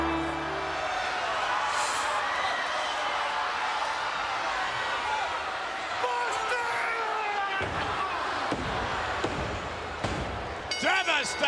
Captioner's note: applause